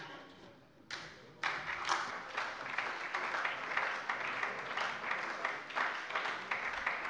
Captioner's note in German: Beifall bei der SPD